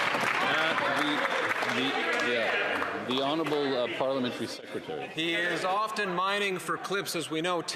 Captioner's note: some Applause